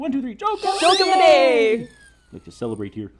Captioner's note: whistle